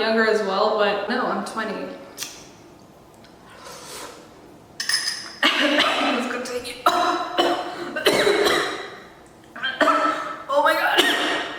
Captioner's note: starts coughing